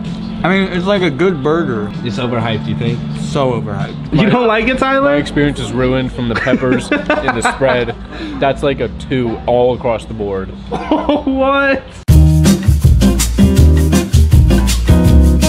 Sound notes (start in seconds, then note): 10.7 laughs; 12.0 jazz music